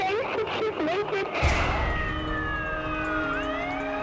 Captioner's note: siren wailing